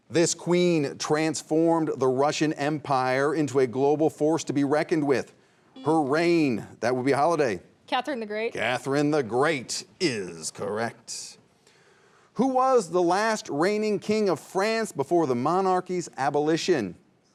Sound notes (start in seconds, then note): 6.3 buzzer sounding